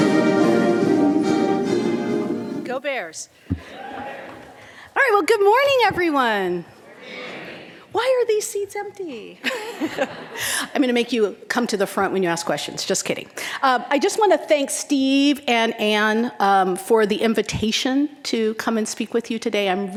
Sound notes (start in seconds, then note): 3.7 crowd whooping; 9.4 all laughing